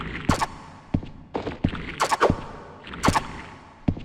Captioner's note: footsteps echoing; spider swishing